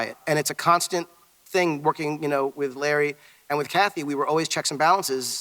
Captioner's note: none